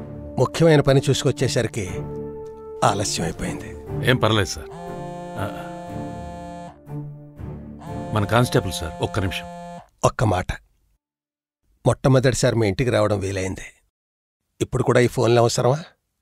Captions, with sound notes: I got late because I had to deal with an important work. It’s okay sir. [ Phone ring ] Our constable, sir. One minute. One word, I came to your house for the first time, do you still need these phone calls?